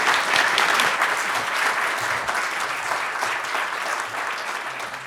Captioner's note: audience clapping